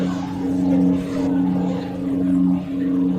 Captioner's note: lightsaber sounds